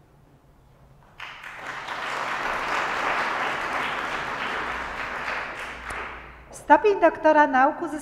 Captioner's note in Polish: oklaski